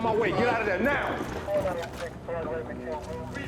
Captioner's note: voice over the radio